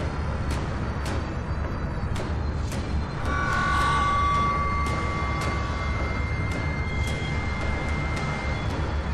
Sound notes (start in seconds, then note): 3.4 loud distortion - beep